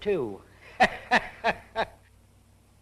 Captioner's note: laughing